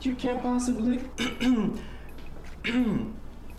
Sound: in robotic voice; clears throat

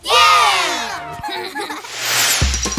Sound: laught

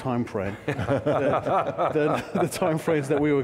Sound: laughter

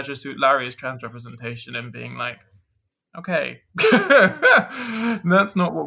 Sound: lauhgs

